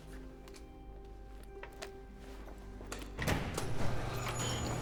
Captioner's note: lock thuds; gate rattling, hydraulics hissing